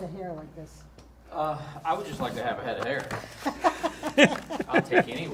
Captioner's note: laughter